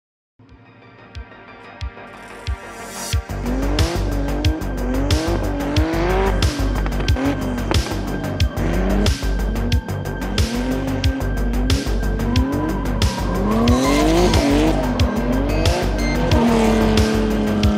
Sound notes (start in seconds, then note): 0.1 dramatic electronic music; 3.7 engines roaring; 8.8 tires screeching; 11.7 engines roaring; 14.2 upbeat electronic music